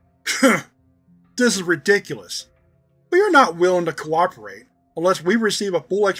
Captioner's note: scoffs